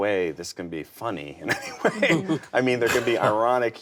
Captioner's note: laughs